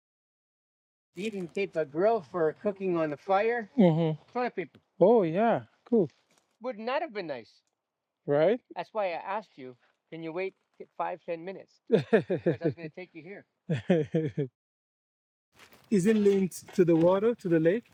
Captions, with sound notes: You can take a grill for cooking on the fire. In front of people. Oh yeah, cool. Wouldn't that have been nice? Right? That's why I asked you, can you wait five, 10 minutes? (laughing) I was gonna take you here. (laughing) Is it linked to the water, to the lake?